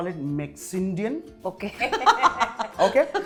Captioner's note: chuckles